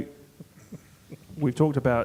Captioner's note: chuckling